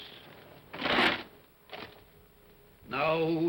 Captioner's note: chains rattle